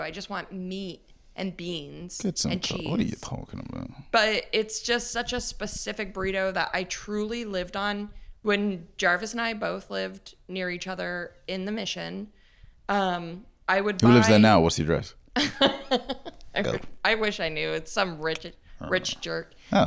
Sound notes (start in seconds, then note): 15.4 laughs